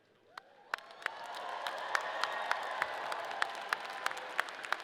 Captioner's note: audience cheering